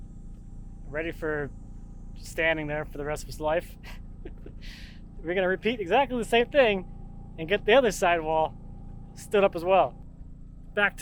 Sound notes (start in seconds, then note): 4.2 laughing